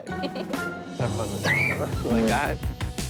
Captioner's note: laughs; screams